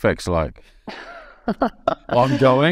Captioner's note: laughing